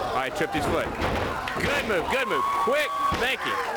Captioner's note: crowd cheering